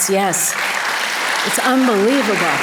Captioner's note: audience applause